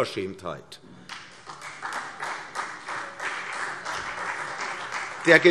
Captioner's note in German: Beifall CDU und vereinzelt Freie Demokraten